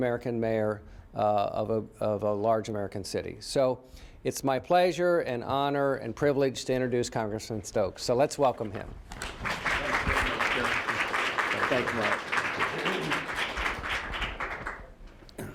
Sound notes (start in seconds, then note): 11.7 applause